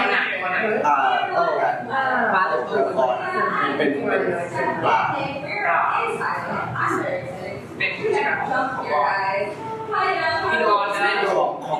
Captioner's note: answers in Thai